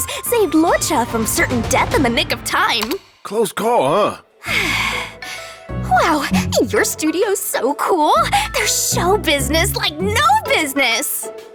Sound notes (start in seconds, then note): 4.4 sigh